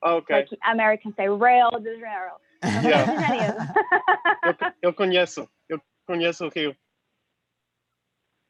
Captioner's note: laughter